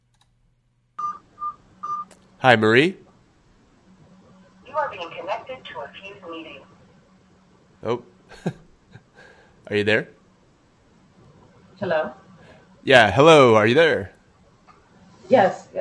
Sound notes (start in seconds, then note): 0.9 beeps; 5.0 automated voice